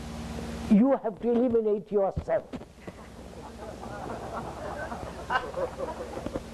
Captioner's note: laughter